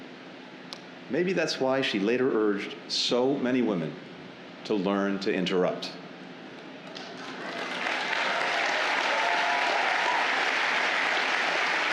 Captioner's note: applause